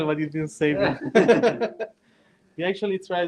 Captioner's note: laughter